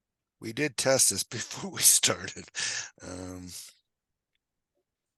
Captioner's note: chuckles